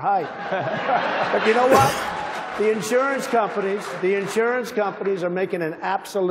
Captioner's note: applause